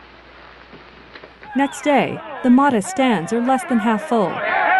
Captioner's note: crowd and players yelling